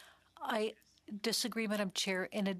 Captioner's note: speaking French